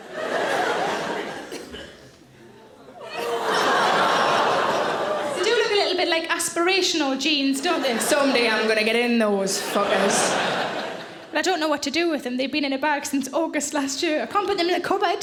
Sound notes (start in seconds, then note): 0.3 audience laughing; 3.0 audience exclaiming